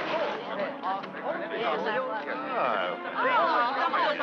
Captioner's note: all chattering